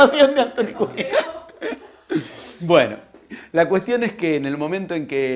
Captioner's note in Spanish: risas